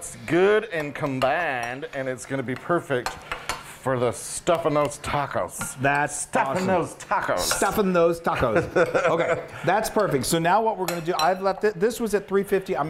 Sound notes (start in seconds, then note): 8.4 laughing